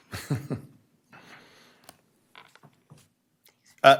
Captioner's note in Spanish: risas